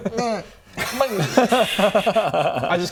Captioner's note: sulky laughter